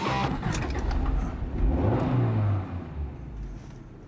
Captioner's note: engine revs